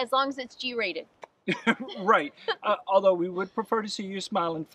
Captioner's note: chuckles